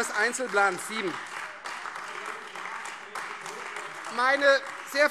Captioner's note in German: Beifall Freie Demokraten und AfD